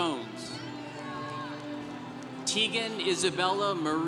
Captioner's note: congregation cheering